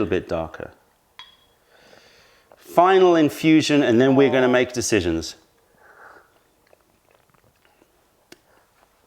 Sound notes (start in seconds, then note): 5.6 sips tea